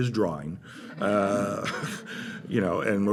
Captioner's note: laughter